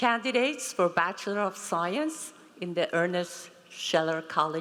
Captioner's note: none